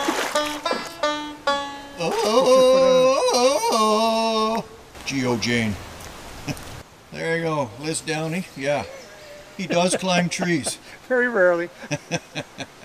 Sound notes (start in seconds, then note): 1.9 Tarzan call; 11.9 chuckles